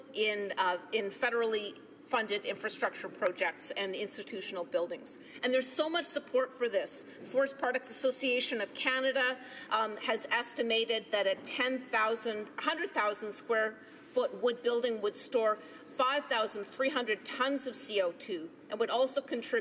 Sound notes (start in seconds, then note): none